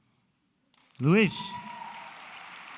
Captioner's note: applause